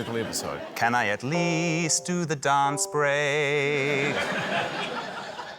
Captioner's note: laughter